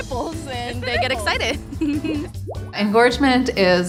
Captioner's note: giggles